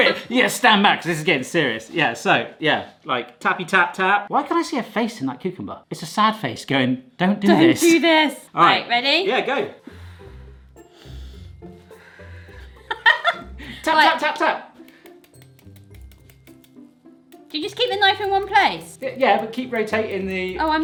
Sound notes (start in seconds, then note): 0.0 laughter; 12.8 laughter